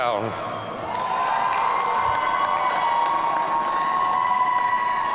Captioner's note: audience cheering